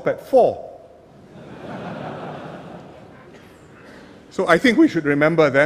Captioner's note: laughter